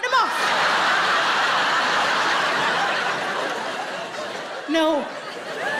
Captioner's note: audience laughing